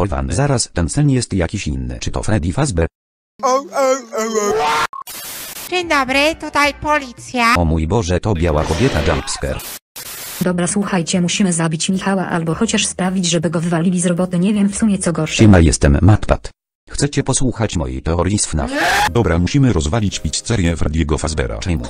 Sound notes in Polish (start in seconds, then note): 5.8 głosem klocucha